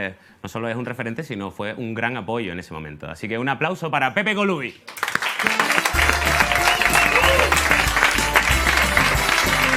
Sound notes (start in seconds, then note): 4.8 applause